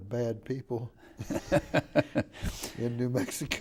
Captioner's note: laughing